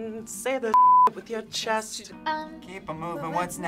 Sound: beep

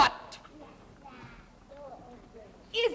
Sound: none

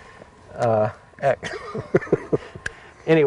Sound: laughing

